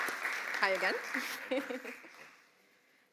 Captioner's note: chuckles